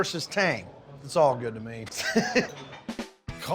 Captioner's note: laughs